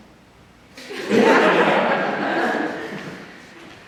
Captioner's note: audience laughs